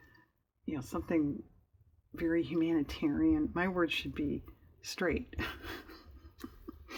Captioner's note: laughs